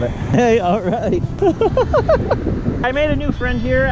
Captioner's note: laughing